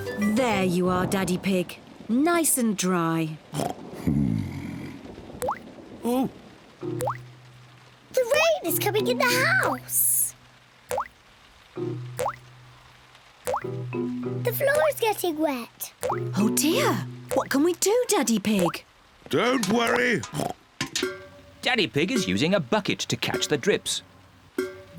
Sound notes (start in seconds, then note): 3.6 oinks; 19.8 oinks